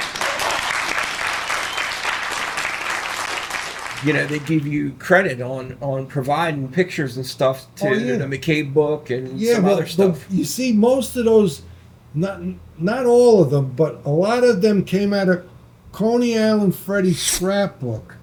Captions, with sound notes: (audience applauding) They gave you credit on providing pictures and stuff and a McCabe book and some other stuff. You see most of those, not all of them, but a lot of them came out of Coney Island Freddies scrapbook.